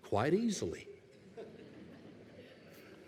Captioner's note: laughter